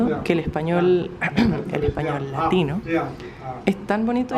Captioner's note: cough cough